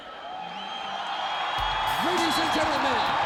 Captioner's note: spectators cheering